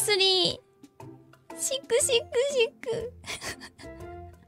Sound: sobbing

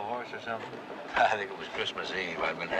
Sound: chuckles

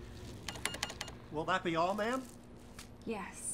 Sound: cash register beeping

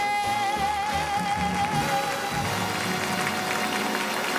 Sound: audience clapping

